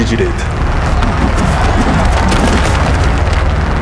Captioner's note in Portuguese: Som de pedradas